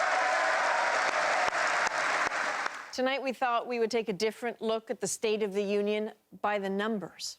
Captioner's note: applause